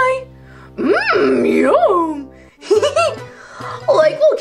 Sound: laughs

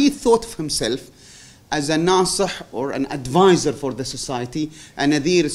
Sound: non-english

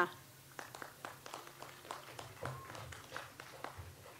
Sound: audience applauds

